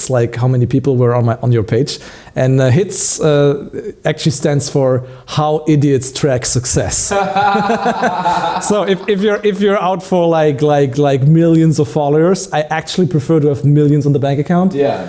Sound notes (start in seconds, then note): 7.0 laughs